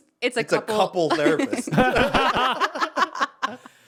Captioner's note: all laughing